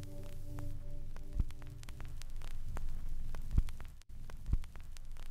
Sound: gentle music fades; record player crackling

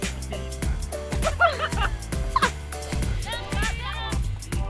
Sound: laughter

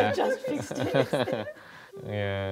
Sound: all laugh

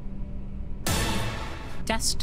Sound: Tony Hawk Stunt FX

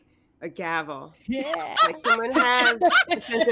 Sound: laughter

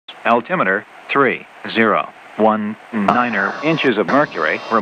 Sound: computer Voice

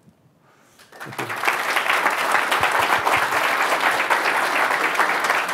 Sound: applause

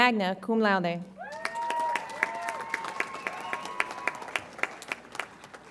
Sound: audience applauds and cheers

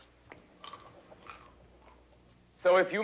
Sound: J.D. chomping

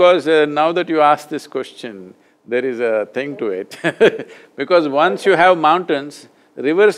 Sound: laughs

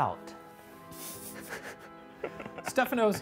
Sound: laughing

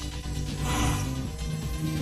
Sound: gasps

